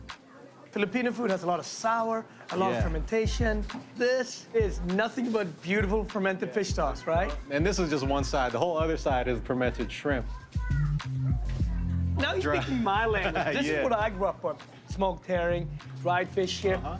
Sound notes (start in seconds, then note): 11.5 laughs